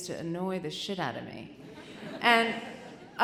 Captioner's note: audience chuckling